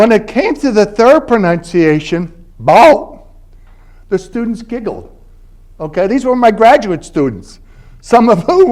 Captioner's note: southern